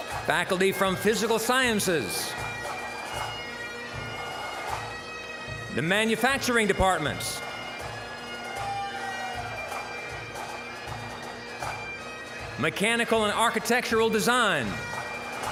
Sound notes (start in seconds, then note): 3.4 bagpipe music; 7.8 bagpipe music; 8.4 scattered cheering; 11.0 bagpipe music; 15.2 bagpipe music